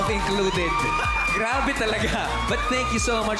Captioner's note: laughs